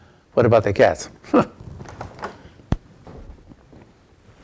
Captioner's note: chuckles